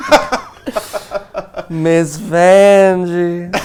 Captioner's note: laughs